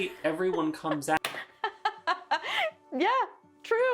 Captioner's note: laughing